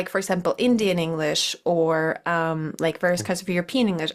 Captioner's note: none